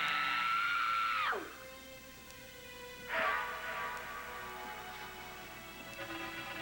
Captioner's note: roxy screams